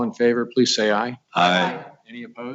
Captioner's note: multiple voices